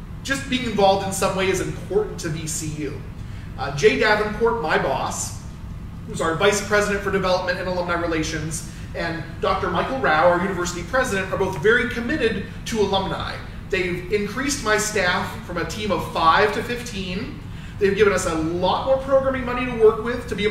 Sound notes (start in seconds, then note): none